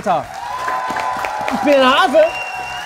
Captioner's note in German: Jubel, Applaus